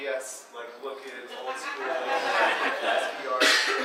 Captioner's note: audience laughing